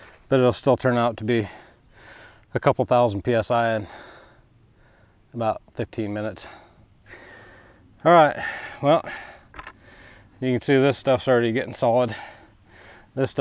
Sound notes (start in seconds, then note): 6.4 heavy breathing; 9.0 sigh